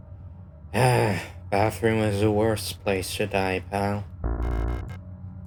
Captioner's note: sigh